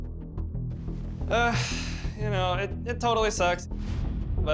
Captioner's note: sighs